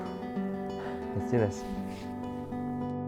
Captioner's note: sighs